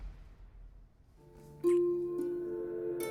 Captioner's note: kissing